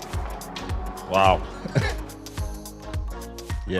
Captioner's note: laughs